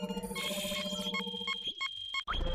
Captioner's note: beeping